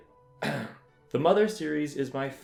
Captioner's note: ahem